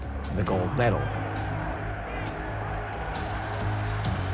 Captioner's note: cheers and applause